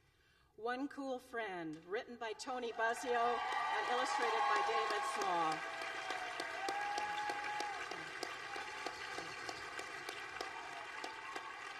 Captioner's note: applause